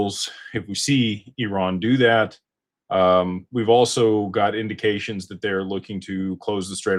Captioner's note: none